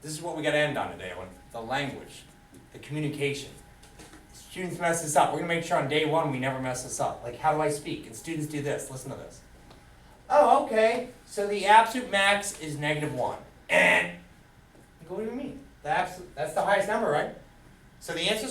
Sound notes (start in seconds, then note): 13.7 makes buzzer sound